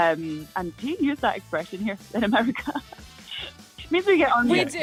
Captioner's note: laughs